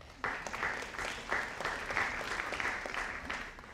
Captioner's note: audience applauding